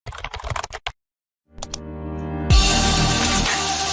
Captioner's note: keyboard clicking; upbeat electronic music